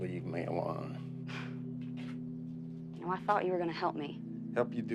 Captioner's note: Joe sighs